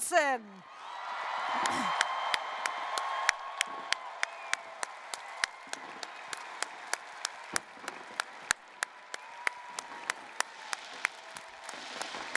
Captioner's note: applause, cheering